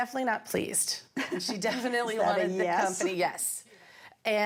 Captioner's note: chuckles